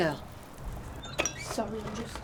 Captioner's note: metal press bangs